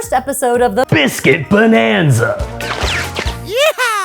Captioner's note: laser shooting